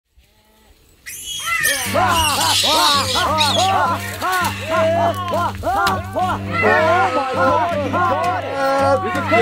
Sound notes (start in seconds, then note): 1.0 animals screeching; 1.2 hunters hollering